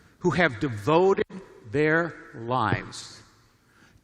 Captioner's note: none